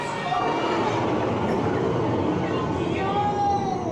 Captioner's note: Monstro makes a booming noise